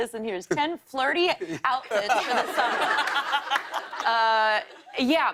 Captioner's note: laughter